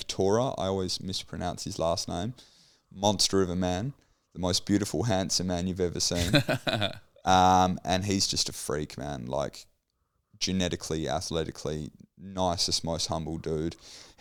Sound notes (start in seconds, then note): 6.1 laughs